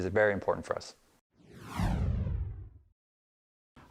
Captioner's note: whooshing